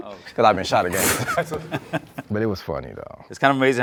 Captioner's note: laughs